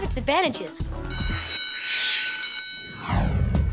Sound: bell ringing

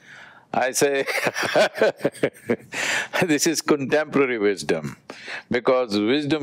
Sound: laughs

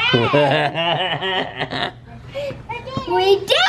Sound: laughing

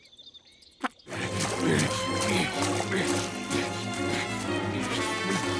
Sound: grunting

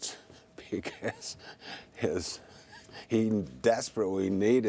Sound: laughing

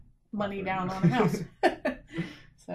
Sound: laughs

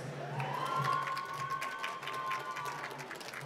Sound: applause

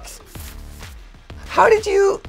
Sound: paper rustling

